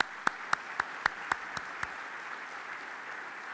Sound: applause

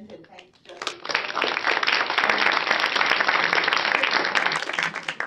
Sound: applause

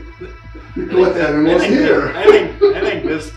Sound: laughs

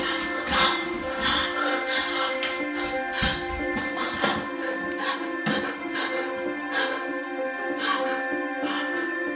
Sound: labored breathing

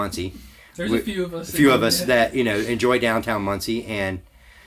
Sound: chuckles

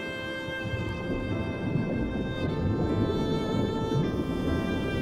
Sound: underwater bubbles

